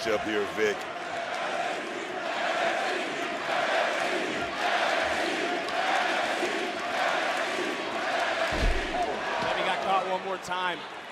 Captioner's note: crowd chants "nxt"